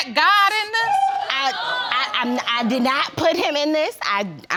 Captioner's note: audience exclaiming; stammering